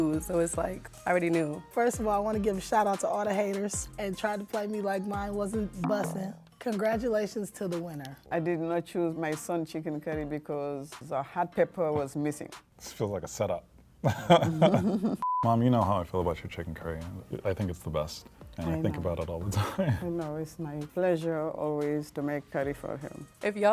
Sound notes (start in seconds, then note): 14.1 and his mom laugh; 15.2 beep